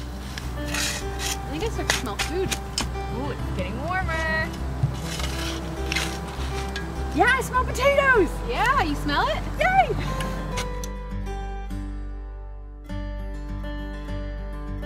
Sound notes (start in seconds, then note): 0.0 sound of shoveling and digging continue; 5.0 shoveling sound continues; 10.2 both chuckle